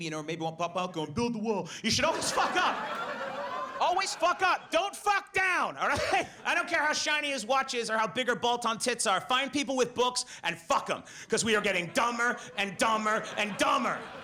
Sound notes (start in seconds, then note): 1.9 audience laughs; 5.9 laughs